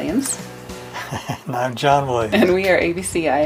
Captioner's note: laughing